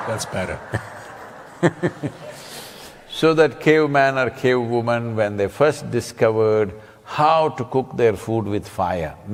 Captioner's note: laughs